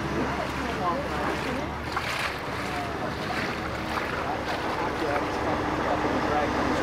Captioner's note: water sloshing; group chattering